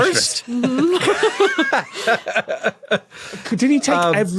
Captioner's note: laughs